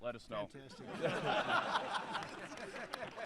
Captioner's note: laughter; applause